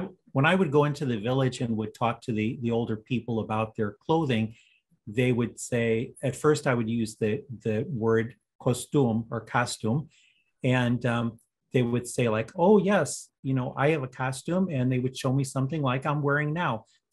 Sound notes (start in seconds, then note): 8.4 with an accent